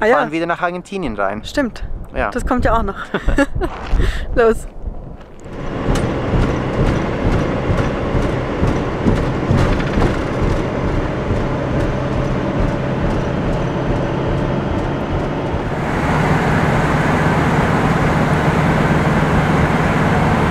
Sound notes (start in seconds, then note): 2.9 laughter